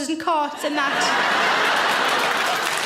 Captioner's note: audience laughs; audience claps